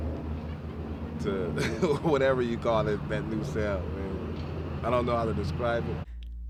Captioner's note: laughs